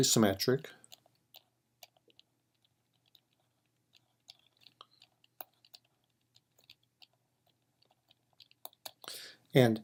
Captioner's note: typing